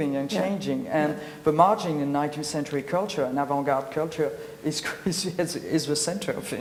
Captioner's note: laughs